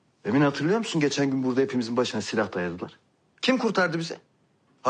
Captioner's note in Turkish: none